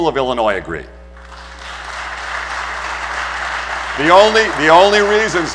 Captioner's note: applause